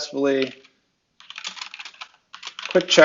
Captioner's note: keys clanging